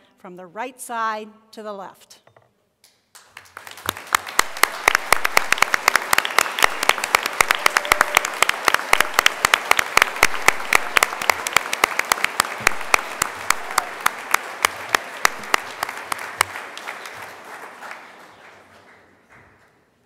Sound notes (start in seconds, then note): 4.0 applause